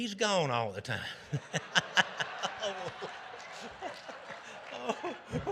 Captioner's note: audience laughing